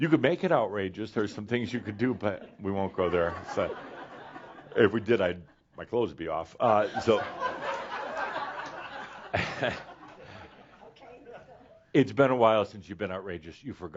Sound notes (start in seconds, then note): 3.9 some laughter; 6.8 more laughter